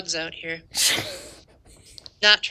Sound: laughter

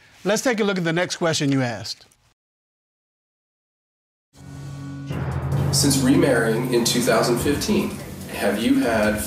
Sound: none

